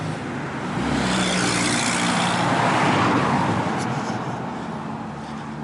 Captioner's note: passing Traffic